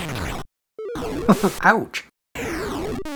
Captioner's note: chuckles